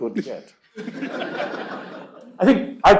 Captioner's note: laughter